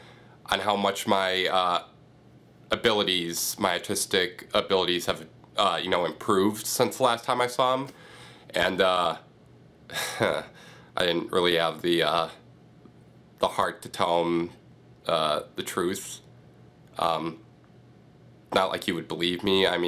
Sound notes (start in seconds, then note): 9.9 chuckling